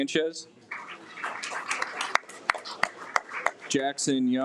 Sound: audience applauds

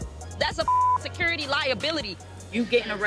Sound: beep

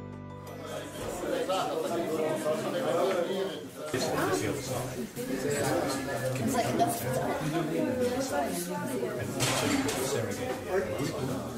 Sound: chattering of people

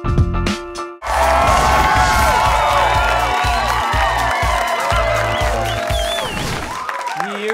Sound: cheering

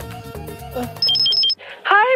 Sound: phone ringing

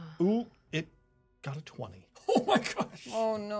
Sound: chuckles

